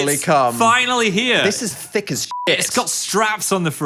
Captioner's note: beep